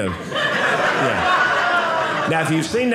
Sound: audience laughing

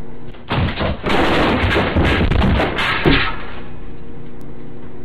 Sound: loud crashing

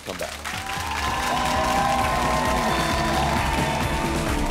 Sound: audience applauding

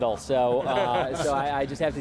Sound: all laughing

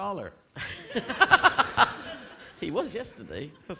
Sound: audience laughing

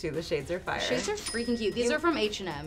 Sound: cash register ringing

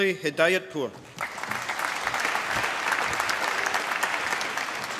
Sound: applause

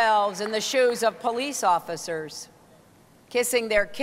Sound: applause

